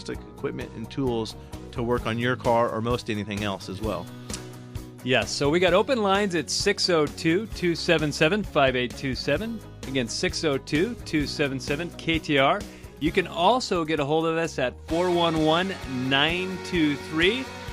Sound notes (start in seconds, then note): none